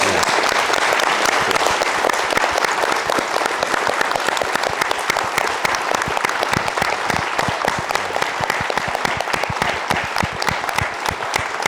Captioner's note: audience applauding